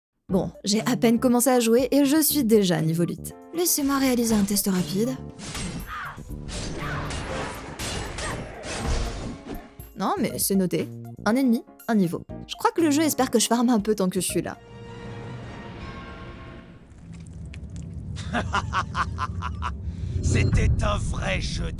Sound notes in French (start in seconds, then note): 5.3 bruits combat